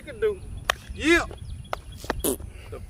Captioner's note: claps hands